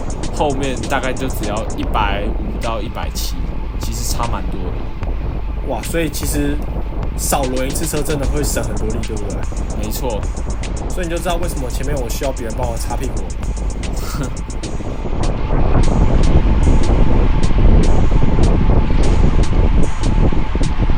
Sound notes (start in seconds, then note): 13.9 laughs